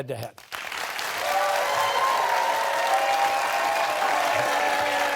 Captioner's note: cheers and applause